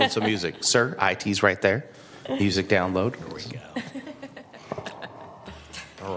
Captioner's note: laughter